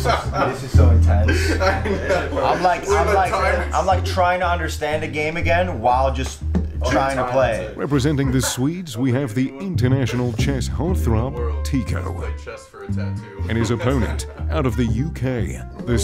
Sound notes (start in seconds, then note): 1.2 laughter